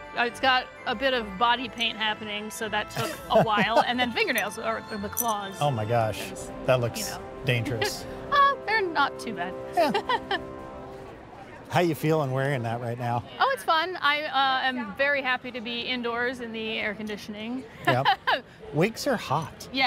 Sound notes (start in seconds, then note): 2.9 laughs; 9.7 chuckles; 17.8 laughs